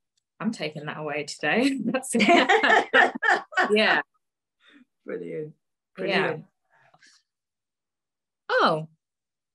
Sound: laughs

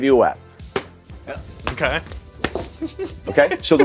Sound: many whaps, armor jingling; whap; giggling

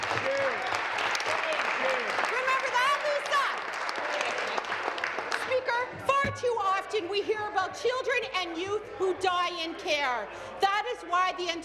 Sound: applause

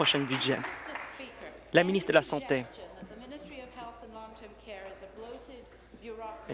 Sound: applause

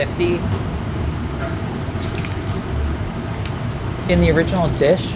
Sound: food sizzling

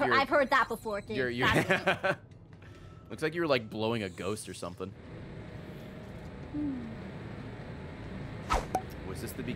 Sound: laughs

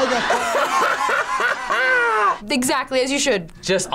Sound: laughs

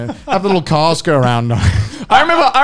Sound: men laughing; laughs

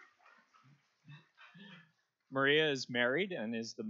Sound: applause

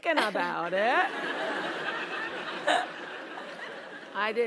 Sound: laugh

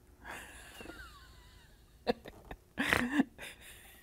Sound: laughs

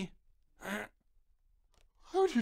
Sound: cough

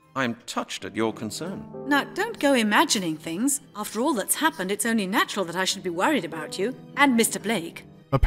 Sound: none

